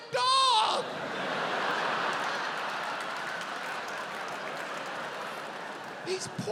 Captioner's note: audience laughs